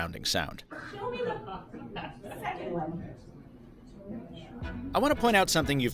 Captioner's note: people chattering